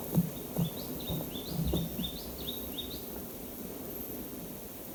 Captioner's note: tanager chirping